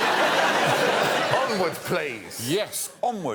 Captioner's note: laughter